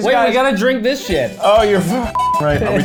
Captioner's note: beep